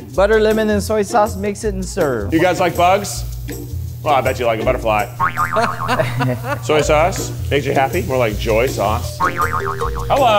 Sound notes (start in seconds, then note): 5.7 crew laughs